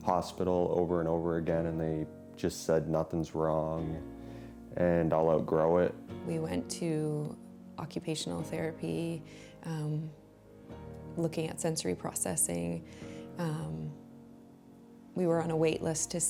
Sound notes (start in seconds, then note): none